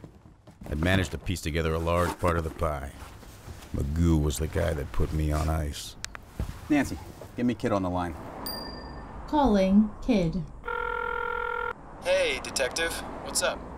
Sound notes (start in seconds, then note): 8.4 phone chimes; 10.6 phone rings